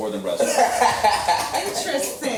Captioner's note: laughs